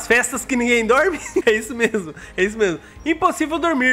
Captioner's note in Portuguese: risos